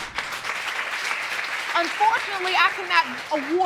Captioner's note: crowd clapping